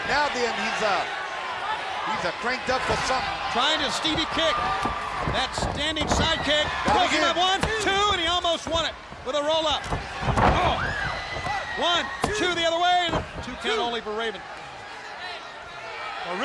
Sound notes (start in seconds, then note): 8.1 hands thudding; 10.2 body thudding; 10.2 hands thudding; 14.5 crowd clamoring